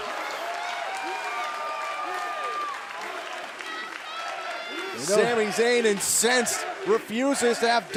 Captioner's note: cheers & applause